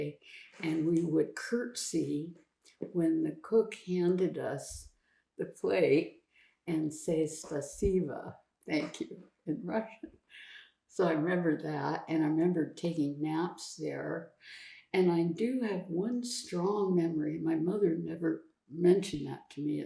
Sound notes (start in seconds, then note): 7.3 russian